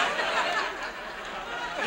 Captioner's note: audience laughs